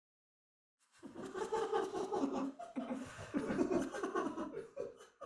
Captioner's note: maniacal giggling starts before fading out again